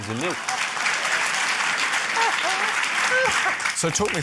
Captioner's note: applause